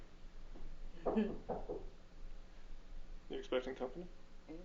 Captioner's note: knocking on door